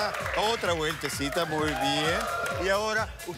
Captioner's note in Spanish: Exclamaciones